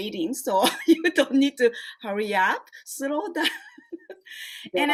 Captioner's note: laughs